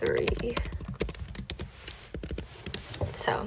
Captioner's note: keyboard clacks